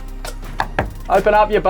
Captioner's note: knocks door